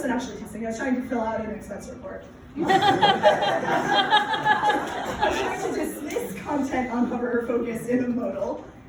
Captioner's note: laughter